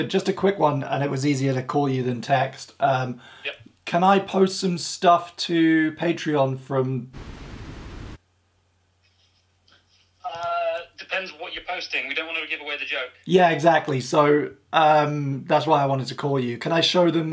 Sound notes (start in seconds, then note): 7.1 static buzzes